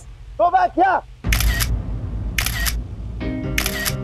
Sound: photo clicking

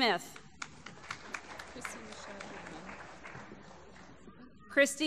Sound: applause

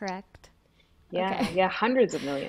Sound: chuckles

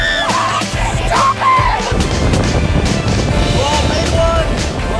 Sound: everyone screaming; wind blowing

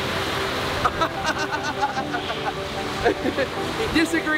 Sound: laughs

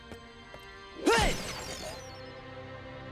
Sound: grunting

